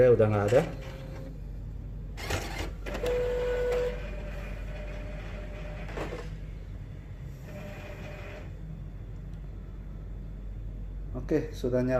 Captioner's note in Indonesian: suara mesin printer